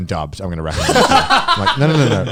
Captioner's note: laughs